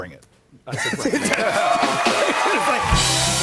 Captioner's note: laughs; cheers and applause